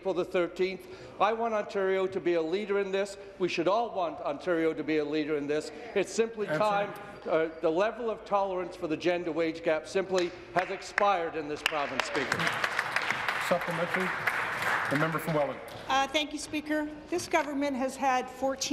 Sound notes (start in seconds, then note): 16.0 applause